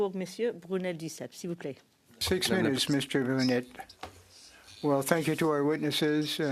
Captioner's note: speaking French